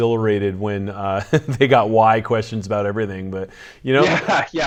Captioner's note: laughs